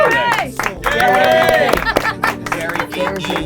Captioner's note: applause